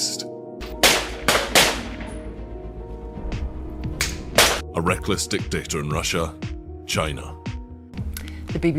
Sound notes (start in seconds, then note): 0.8 gunshots pop